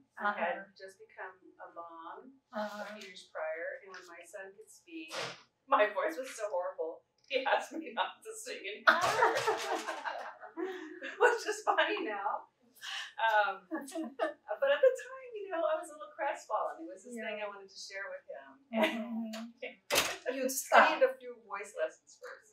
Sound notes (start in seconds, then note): 11.7 laughter